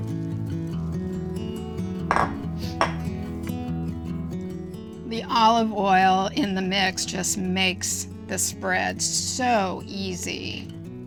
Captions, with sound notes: (bowl clacking) The olive oil in the mix just makes the spread so easy